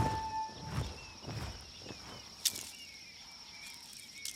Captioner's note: birds calling in distance